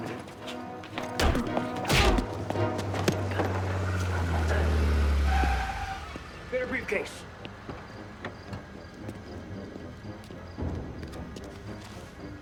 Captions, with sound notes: Wait a minute. (punch thuds) (tense music) (car rumbles) Get her briefcase. (tense music continues)